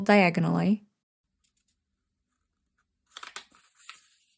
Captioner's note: paper folding and creasing